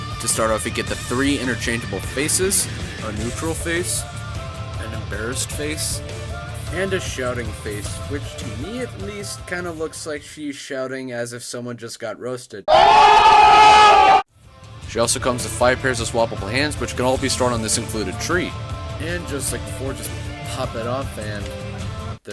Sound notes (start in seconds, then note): 12.7 oooooooohhhhhhhhhhhhhhhhhhhhhhhhhhhhhhhhhhhhhhhhhhhhhhhhhhhhhhhhh